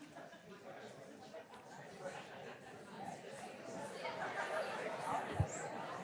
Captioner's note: audience indistinctly chattering